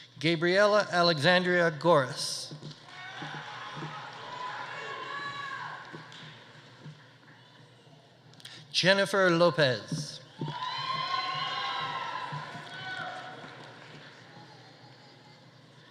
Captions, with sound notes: Gabriella Alexandria Goris. (audience applauding) (audience cheering) Jennifer Lopez. (audience applauding) (audience cheering)